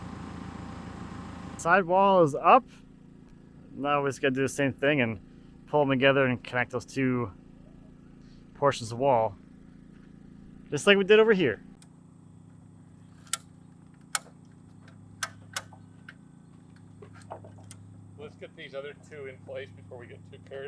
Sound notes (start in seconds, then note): 13.2 chain clicking